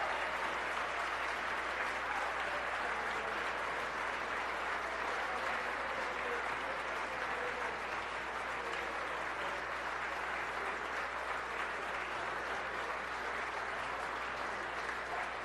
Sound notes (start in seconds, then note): 0.0 applause